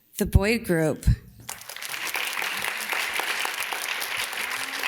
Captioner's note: audience claps